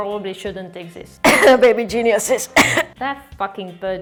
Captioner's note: cough